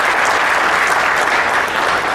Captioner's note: applause